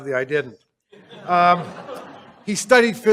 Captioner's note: laughter